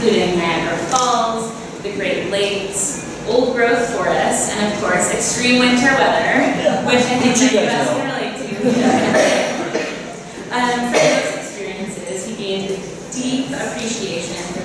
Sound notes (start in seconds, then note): 8.4 laughter